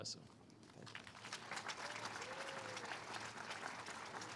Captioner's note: all applauding